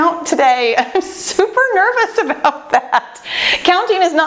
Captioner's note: laughs